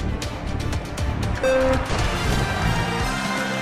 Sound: counting sound

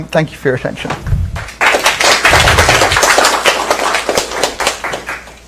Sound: applause

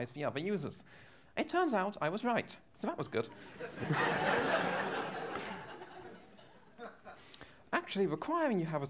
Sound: laughter

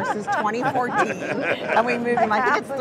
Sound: everyone laughs

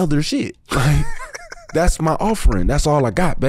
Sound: laughs

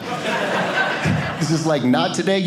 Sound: audience laughing

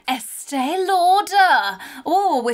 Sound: gasps

